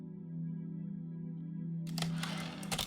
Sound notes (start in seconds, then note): 1.9 typewriter return slide